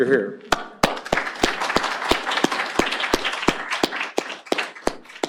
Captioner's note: applause